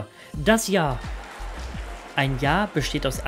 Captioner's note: cheers